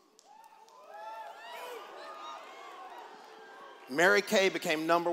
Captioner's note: cheers